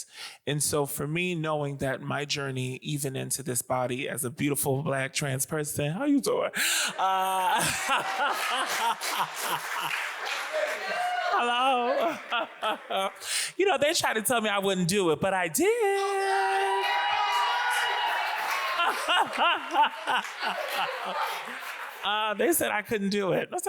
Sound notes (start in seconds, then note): 6.8 audience applauds; 6.9 laughs; 15.8 audience applauds